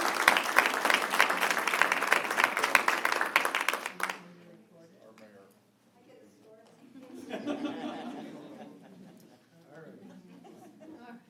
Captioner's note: applause